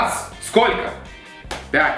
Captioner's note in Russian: Хлопок